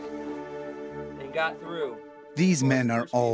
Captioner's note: voiceover